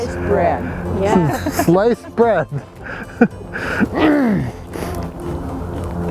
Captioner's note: all laugh